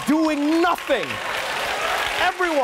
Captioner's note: audience applauding